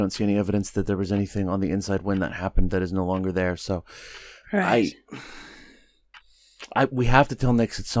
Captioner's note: sighs